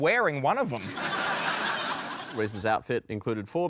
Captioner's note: laughter